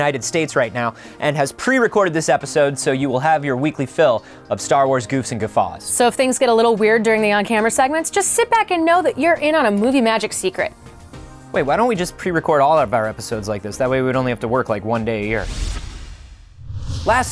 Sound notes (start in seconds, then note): none